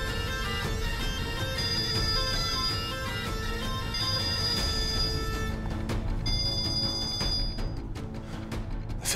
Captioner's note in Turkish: Telefon çalıyor